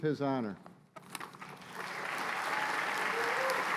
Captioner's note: applause